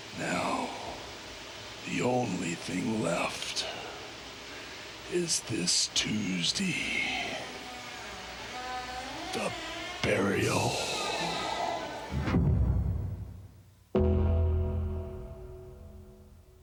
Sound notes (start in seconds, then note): 7.2 coffin creaking; 13.9 eerie music